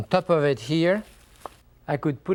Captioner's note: cellophane rustles